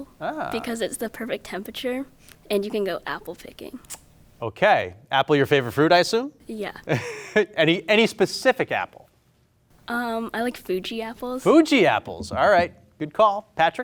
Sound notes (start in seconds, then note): 6.9 chuckles